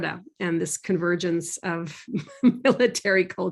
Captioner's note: laughs